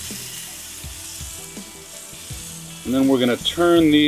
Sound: fish sizzles

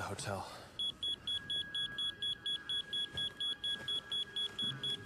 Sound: electronic beeping

